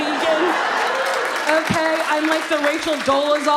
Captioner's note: audience laughs